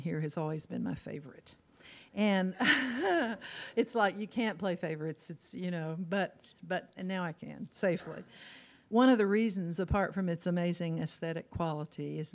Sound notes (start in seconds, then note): 2.6 laughs